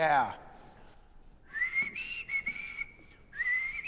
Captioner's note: whistling